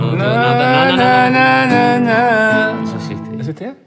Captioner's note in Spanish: tararea " "